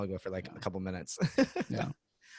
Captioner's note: laughs